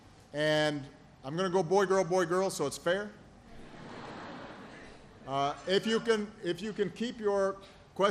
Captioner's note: laughter